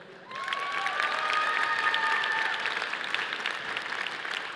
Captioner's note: audience applauding